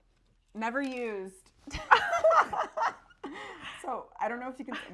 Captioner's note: both laughing